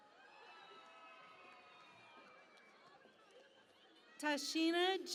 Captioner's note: cheering and Applause